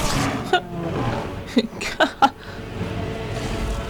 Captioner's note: laugh